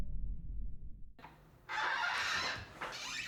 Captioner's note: door Squeaks